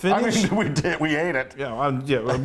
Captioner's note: laugh